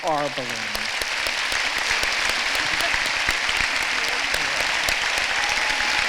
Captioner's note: applause